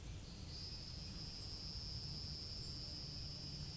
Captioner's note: gentle music; cicadas chirping